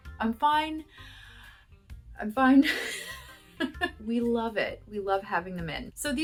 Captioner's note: laughter